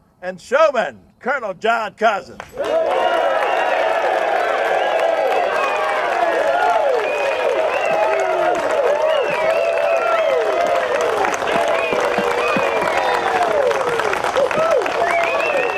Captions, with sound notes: and showman, Colonel John Cousins. [crowd cheering] [applause]